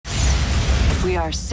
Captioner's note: whooshing